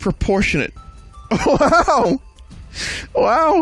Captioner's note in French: rigole